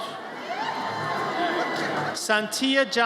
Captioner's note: audience cheers